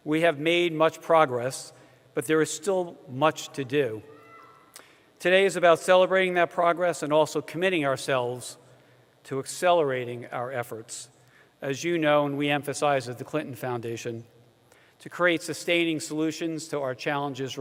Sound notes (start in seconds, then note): none